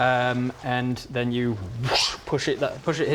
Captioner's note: whoosh